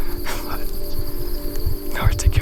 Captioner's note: chuckles